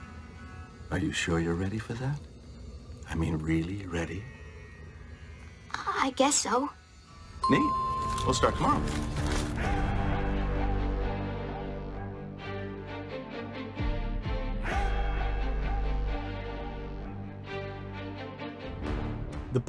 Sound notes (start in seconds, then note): 7.4 ding sound effect